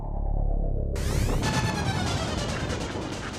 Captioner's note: mind-shattering kaboom